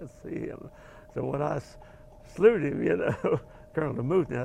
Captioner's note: laugh